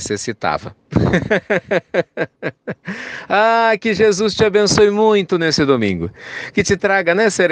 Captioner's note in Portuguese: risos